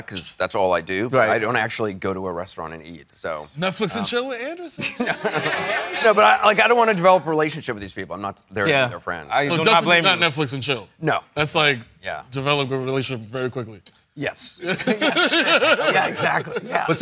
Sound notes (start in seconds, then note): 4.8 chuckles; 14.6 laughing